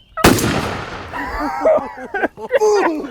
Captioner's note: gunshot firing; hunters laughing